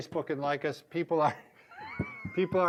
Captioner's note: laughs